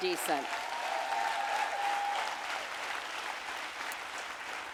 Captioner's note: audience applauding